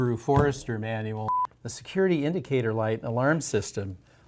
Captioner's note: beep